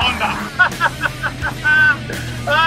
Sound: chuckles

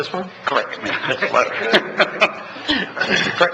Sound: laughs

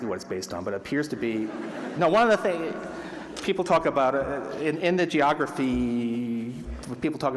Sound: laughter

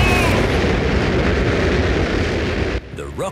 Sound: rockets blasting

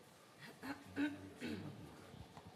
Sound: cough

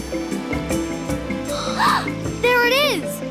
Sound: gasping

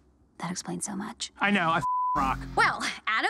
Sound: beep

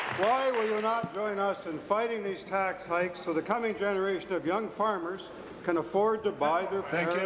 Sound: some Applause

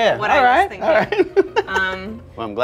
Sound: laughs

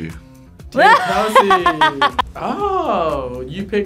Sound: laughs

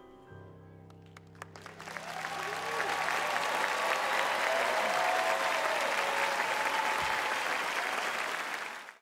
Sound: audience cheering

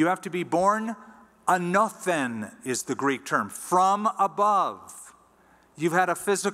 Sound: non-english

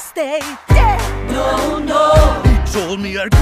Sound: crowd

